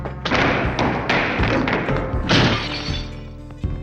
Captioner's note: items breaking